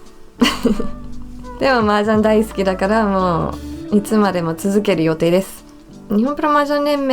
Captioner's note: heh